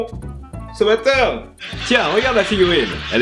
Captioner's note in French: Rires de sitcoms